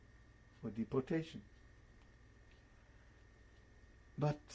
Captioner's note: pauses for 3 seconds